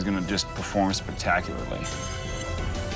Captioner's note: scraping